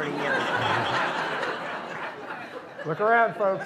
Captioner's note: laughter